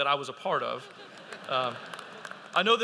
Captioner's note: audience laughing